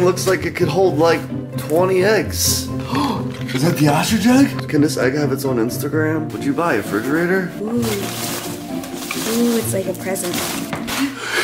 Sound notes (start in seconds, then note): 8.4 packing peanuts rustling